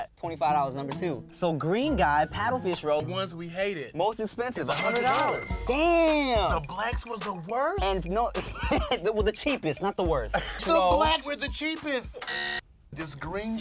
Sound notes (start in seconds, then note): 12.2 buzzer beeps; 12.2 beep